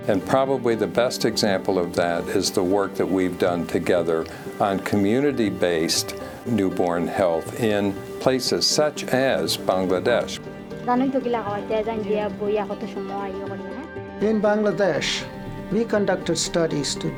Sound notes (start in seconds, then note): 10.9 non-english speech